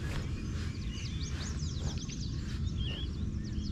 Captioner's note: birds chirping